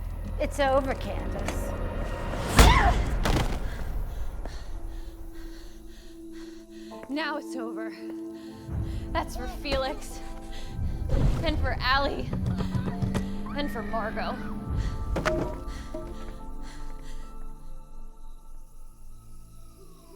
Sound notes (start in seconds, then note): 2.6 Jeanette screams; 3.4 Candace panting; 13.2 muffled screaming; 15.1 pensive music